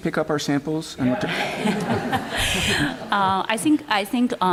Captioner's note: laughter